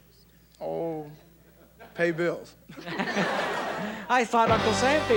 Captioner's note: laughing